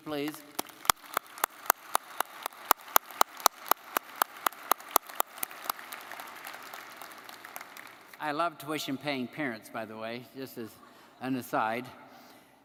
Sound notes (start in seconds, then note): 0.1 audience applauding